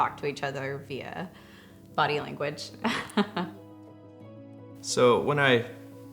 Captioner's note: chuckles